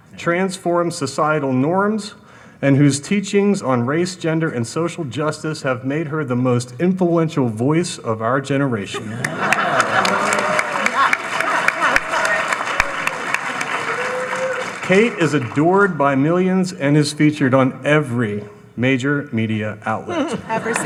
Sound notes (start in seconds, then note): 8.9 laughing; 9.0 audience applauding; 20.2 audience laughing